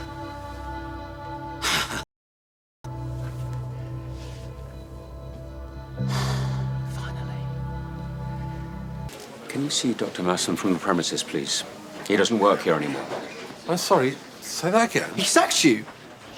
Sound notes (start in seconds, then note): 1.8 laughs; 6.0 sighs